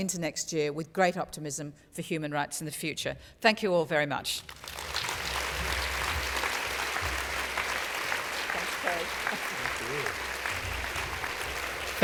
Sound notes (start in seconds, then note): 4.4 applause